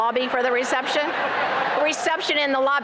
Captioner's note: laughter